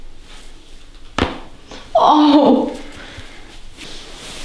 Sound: the girl screams after massage

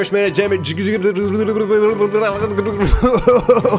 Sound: spits and coughs; gasp of air

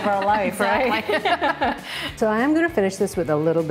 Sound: laughing

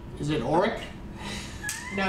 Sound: laughter

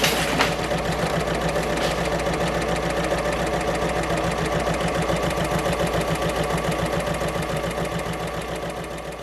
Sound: sewing Machine Sounds

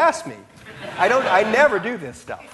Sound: audience laughing

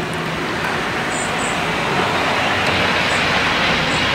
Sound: sound of a vehicle passing by in the background

